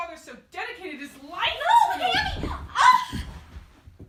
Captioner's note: none